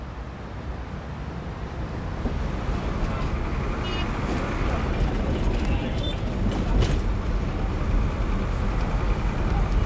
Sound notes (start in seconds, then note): 3.3 honking